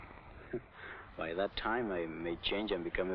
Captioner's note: chuckles